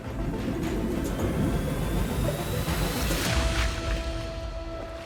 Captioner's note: water burbling